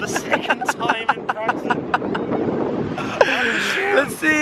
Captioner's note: laughing